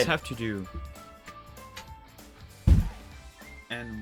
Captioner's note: thudding